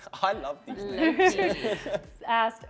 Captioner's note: laughs